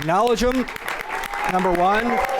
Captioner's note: applause